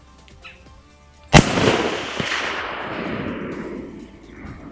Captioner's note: gun shot